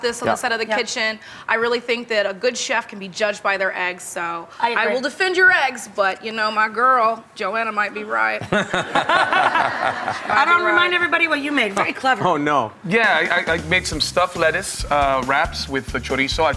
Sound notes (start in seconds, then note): 8.4 chuckle; 12.2 laughs